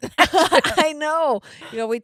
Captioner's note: laughing